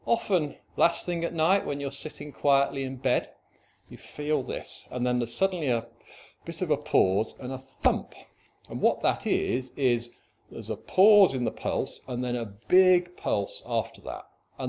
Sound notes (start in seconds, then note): 6.0 gasp